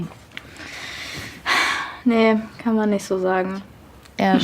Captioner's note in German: Seufzen